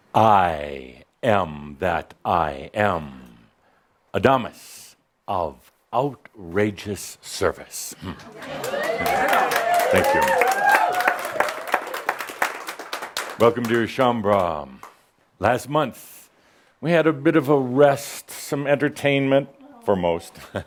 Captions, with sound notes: I Am that I Am, Adamus of outrageous service. (audience applause) Thank you. Welcome, dear Shaumbra. Last month we had a bit of a rest, some entertainment – for most.